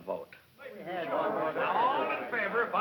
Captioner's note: angry discussion